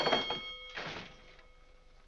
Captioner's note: ringing stops